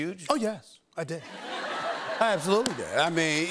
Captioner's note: laughter